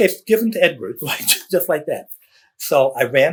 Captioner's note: laughs